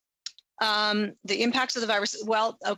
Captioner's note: speaking French